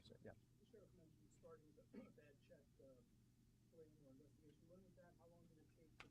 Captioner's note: cough